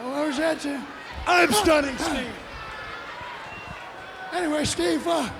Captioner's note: Brian shrieking